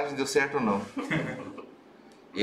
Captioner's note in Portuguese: risos